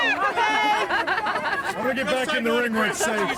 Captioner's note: camerawoman laughing